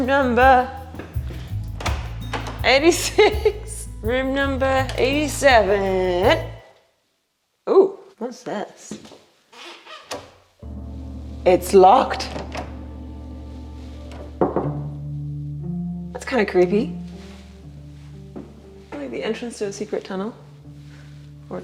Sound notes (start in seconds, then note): 1.7 door opening; 14.4 knocking